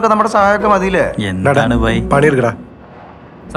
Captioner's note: murmuring